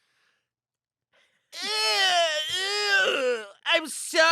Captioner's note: groans